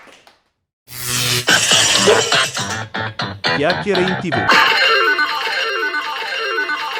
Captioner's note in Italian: Applauso